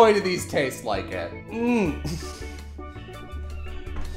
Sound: stifled laughter

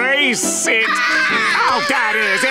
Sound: squawking

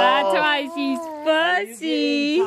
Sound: sounds of agreement

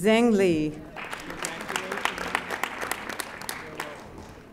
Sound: audience applauding

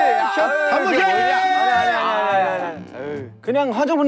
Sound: shouting

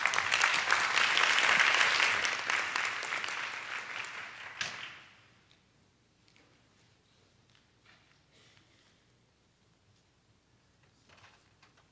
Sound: applause

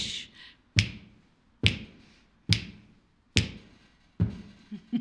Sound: finger click x4

